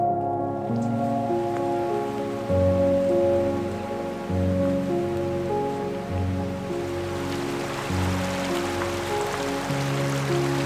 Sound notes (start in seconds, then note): 1.3 creek running in the distance; 7.4 creek rushing